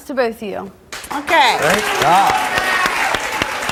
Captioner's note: audience applauds